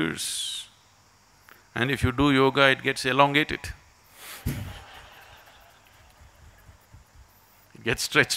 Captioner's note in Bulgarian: Смях